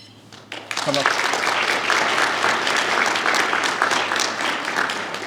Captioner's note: applause